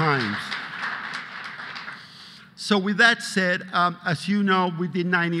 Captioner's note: applause